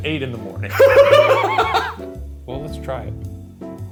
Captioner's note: laughing